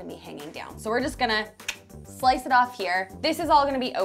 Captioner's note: clicks tongue